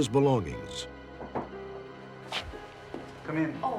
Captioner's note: knocking